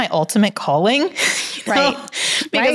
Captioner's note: chuckles